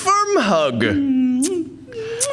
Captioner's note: kissing sound